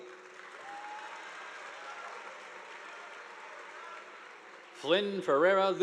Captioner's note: audience applauding